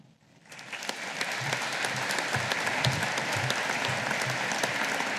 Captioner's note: audience applauding